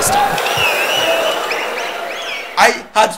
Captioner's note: wild applause and cheering for 22 seconds